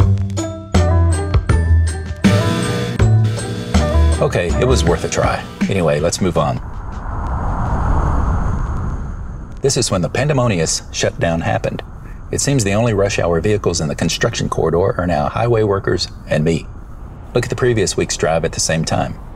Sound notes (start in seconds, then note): 2.2 buzzer; 7.3 highway sounds